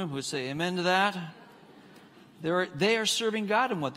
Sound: congregants laughing

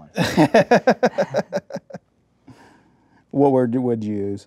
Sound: laughing

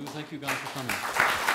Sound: applause

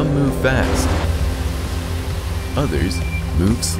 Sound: water rushes

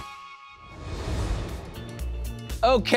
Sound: graphics whoosh; upbeat electronic music

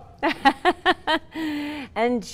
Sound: laughing

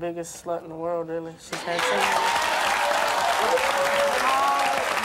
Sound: applause

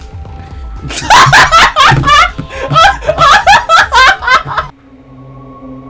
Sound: laughs so hard

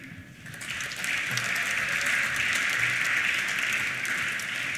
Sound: applause

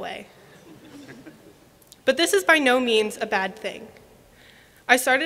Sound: laughter

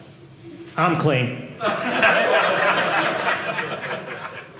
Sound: audience laughing

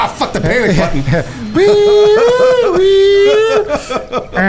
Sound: making siren noises

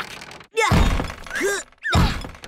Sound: groaning

